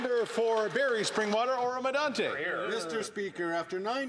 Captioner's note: some Applause